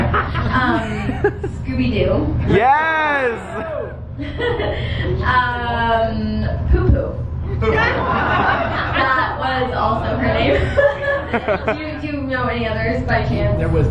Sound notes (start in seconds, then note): 0.2 laughing; 3.2 laughing; 7.5 crowd laughing; 10.4 laughs